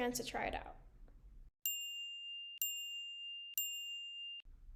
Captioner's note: chiming